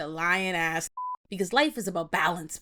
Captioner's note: beep